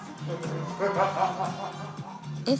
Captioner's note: laughing